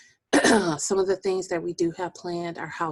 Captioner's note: clearing voice